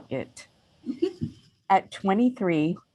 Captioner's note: chuckles